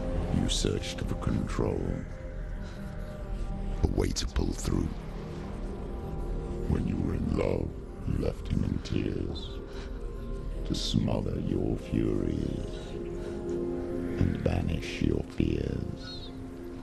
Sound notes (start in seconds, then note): none